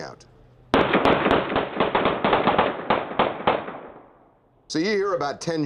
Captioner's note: gunshots